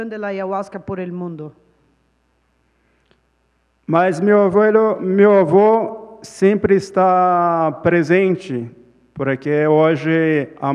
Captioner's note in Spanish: Ponente habla en portugués